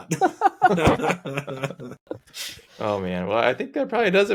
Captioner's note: laughing